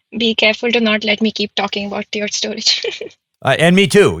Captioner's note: chuckling